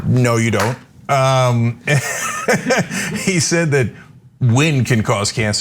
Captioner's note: laugh